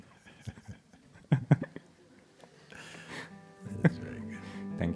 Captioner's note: laughter